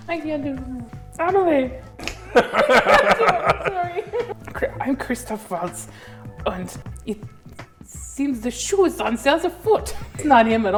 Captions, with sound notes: I can't do Kumail. "EMILY!" [hysterical laughter] I'm sorry. "I'm Christoph Waltz, und it seems the shoe is on the other foot." That's not him at all.